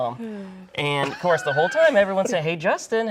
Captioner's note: laughing